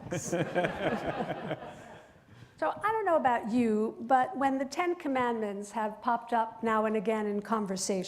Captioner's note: laughter